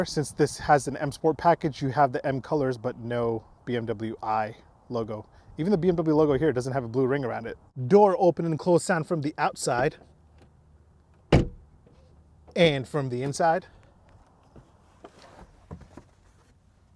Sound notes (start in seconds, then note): 11.2 car door closing solidly